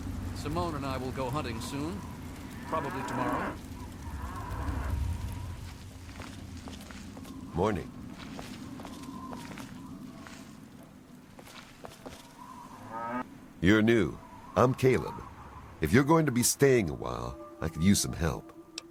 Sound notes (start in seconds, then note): 2.5 A brahmin moos down on the first floor